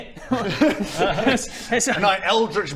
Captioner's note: alarmed laughter